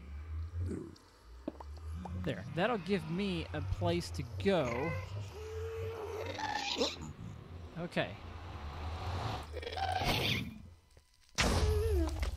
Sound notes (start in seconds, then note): 0.0 ghast squalls; 0.6 grunting continues; 4.3 shrieking and explosions continue